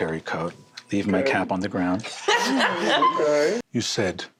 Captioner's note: laughter